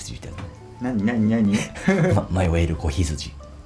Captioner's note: laughs